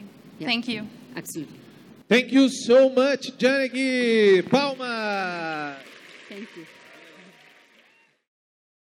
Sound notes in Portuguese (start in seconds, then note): 4.5 Aplausos